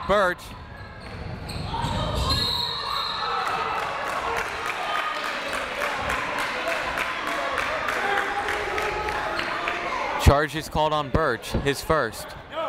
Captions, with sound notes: Burch (whistle) (crowd cheers) Charge is called on Burch. his first.